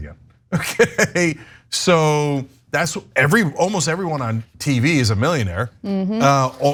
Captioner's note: laugh